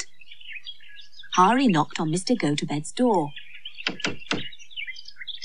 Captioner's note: sound Of Knocking